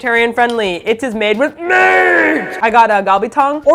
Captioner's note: loud echo-ey voice